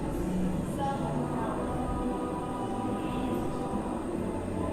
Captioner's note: quiet talking